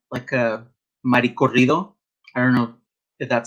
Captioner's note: speaks Spanish